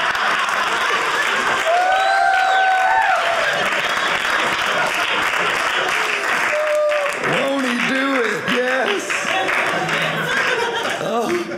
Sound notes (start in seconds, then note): 0.0 audience applauding; 8.3 audience laughing